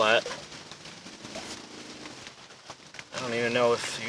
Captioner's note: wind whirring